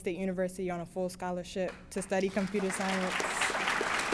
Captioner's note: applause